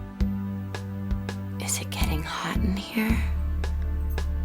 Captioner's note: whispering